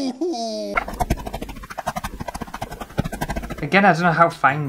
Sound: super fast chopping sounds

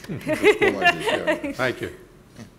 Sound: laughing

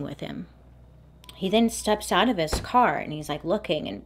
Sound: car door shuts

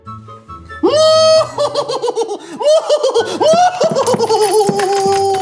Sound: hysterically laughing

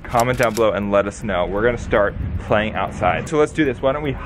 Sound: none

